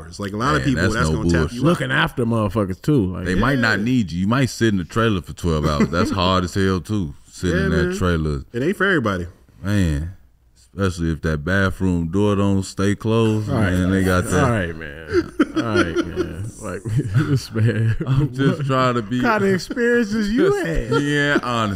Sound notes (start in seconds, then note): 16.7 laughs